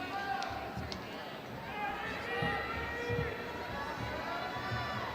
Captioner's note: audience murmuring